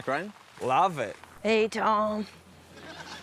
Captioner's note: deep voice; laughs